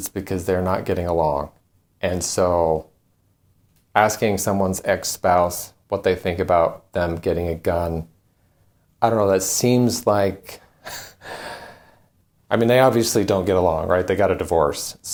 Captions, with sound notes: it's because they're not getting along. And so asking someone's ex-spouse what they think about them getting a gun, I don't know, that seems like (chuckles), I mean, they obviously don't get along; they got a divorce.